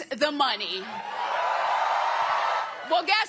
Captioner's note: cheering